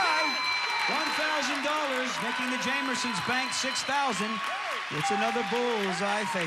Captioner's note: audience applauding